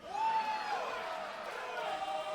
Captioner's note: audience cheering